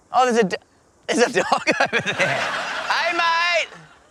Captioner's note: he laughs